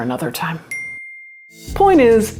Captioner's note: bell dings